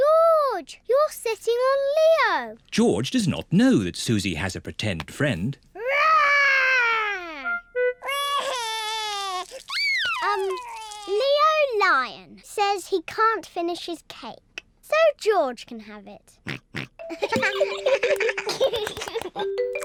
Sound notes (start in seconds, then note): 8.0 crying; 16.4 oinks; 17.1 all giggling